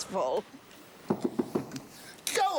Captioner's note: knocking